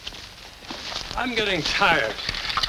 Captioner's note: grass rustles